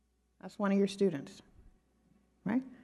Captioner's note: none